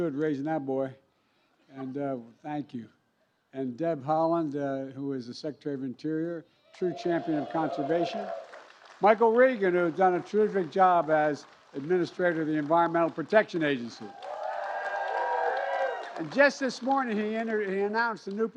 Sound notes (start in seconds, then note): 4.1 applause